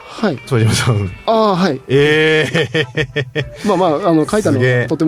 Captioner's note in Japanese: 笑い